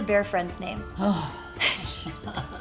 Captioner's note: weary sigh